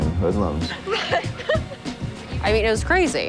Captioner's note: giggles